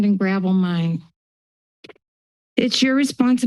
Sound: silence

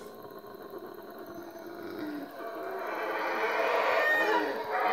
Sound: howling monkey

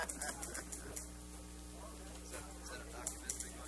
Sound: laughter

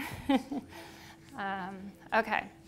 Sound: chuckles

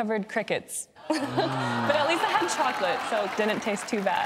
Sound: audience groaning

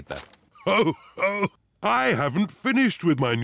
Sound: laughs

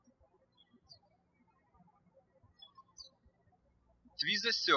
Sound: birds chirping

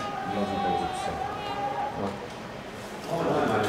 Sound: Allahu Akbar shoutings

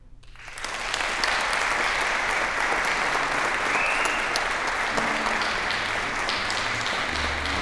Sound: applause

